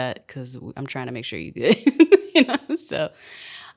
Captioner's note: laughs